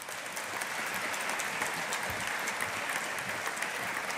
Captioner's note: audience applauding